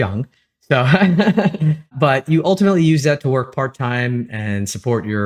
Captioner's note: laugh